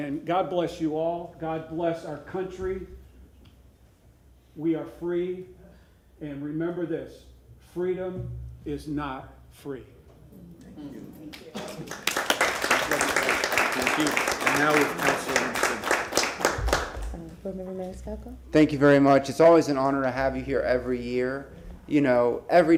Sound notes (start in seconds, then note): 17.6 applause